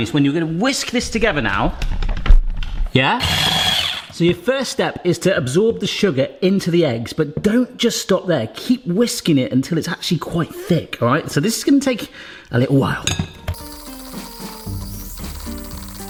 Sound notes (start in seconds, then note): 3.2 blender whirring; 13.4 calm music